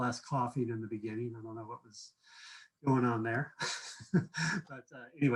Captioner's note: laughs